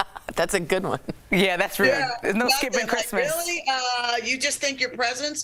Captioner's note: laughter